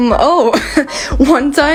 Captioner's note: chuckles